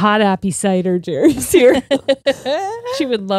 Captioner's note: all laughing